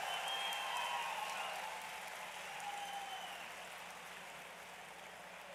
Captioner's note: applause